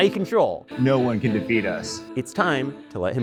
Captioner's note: Darth Vader Voice